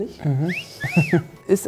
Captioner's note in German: Erotischer Pfiff